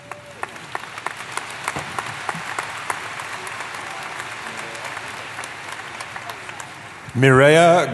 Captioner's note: applause